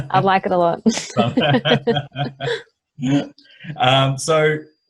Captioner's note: both laughing